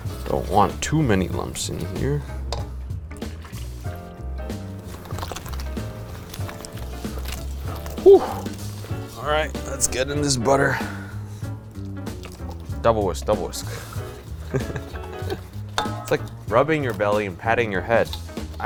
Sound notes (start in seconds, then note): 0.0 upbeat jazz music; 4.9 wet ingredients slopping together; 14.3 laughs